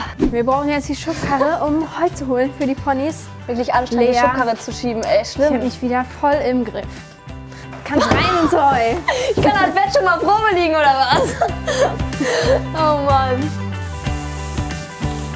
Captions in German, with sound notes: Wir brauchen jetzt die Schubkarre, um Heu zu holen für die Ponys. Anstrengend, die Schubkarre zu schieben. Schlimm. Ich hab dich wieder voll im Griff. Rein ins Heu! (lacht:) Ich kann mein Bett schon mal Probe liegen, oder was? O Mann. (Fröhliche Musik)